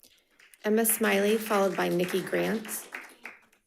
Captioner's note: audience clapping